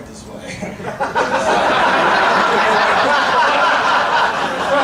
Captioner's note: audience laughing